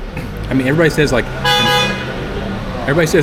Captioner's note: car horns